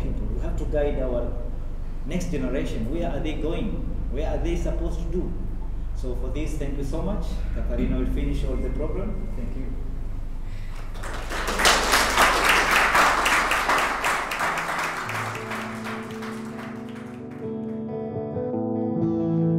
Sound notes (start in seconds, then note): 10.6 applause; 17.1 guitar music playing